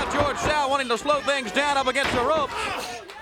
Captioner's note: crowd chatter